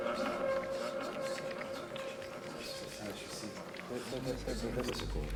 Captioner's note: distorted whispering